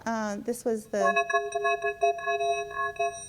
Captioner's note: voice speaks distorted, metallic speech